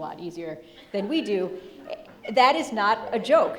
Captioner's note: audience laughing